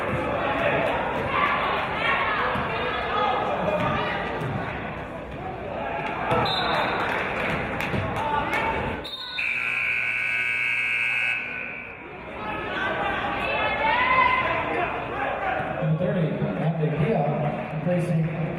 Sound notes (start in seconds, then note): 6.7 referee's whistle; 9.1 buzzer